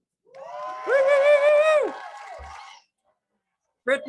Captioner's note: crowd cheers